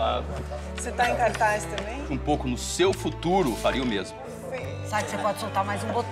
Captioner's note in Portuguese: falatório; falatório